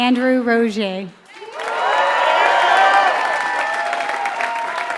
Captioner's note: applause